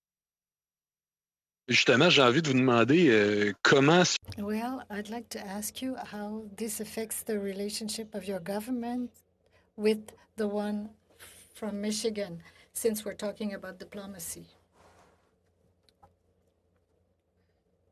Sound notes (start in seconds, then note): 7.8 speaking French